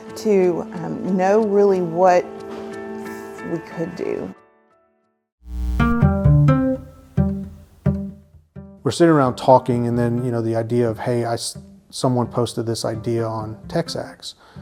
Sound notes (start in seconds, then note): 5.4 static; 5.5 calm music